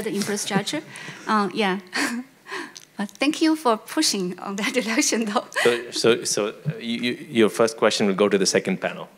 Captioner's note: laughs